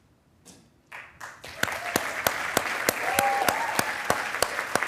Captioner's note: attendees applauding